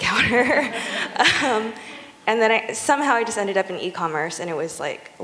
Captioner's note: laughter